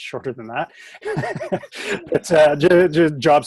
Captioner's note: both chuckle